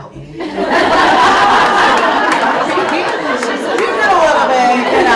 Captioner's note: audience laughs